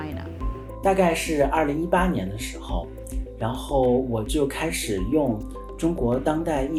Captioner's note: Mandarin